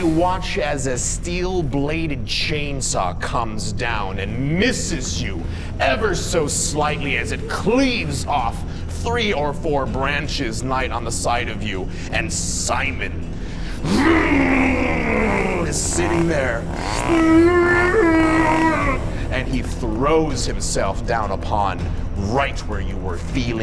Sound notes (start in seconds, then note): 14.1 motor rumbling; 17.0 moaning